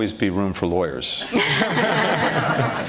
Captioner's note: laughter